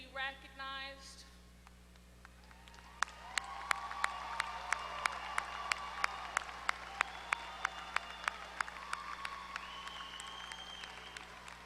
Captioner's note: applause